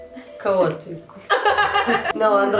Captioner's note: laughs